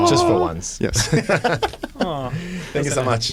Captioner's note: laughter